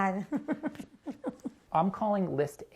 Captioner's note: giggling